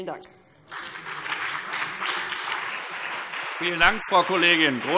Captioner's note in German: Beifall BÜNDNIS 90/DIE GRÜNEN und CDU